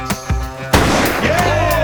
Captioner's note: sound of gunshot